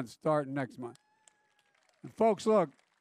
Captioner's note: applause